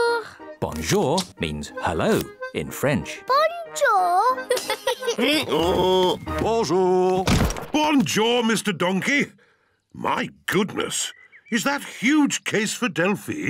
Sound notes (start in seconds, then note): 4.4 both giggle; 5.0 brays